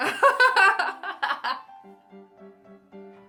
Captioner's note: laughs